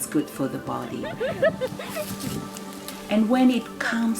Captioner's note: women laughing